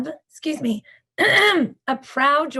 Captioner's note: clears throat